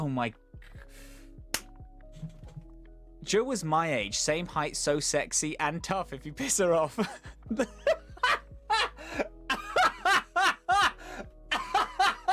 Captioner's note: hit; extended regretful laughter